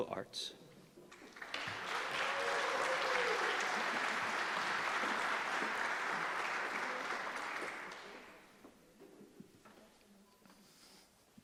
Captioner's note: applause